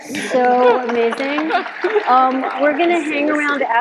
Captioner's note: audience applauding